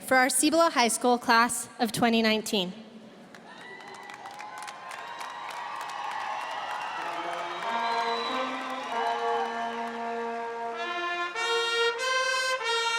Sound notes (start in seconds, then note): 3.3 audience applauding; 3.4 audience cheering